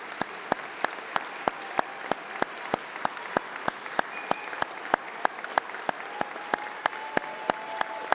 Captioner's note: applause